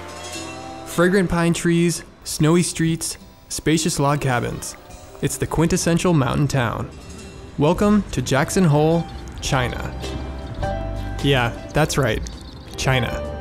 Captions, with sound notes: - [Voiceover] Fragrant pine trees, snowy streets, spacious log cabins. It's the quintessential mountain town. Welcome to Jackson Hole, China. Yeah that's right, China.